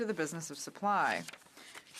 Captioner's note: speaking French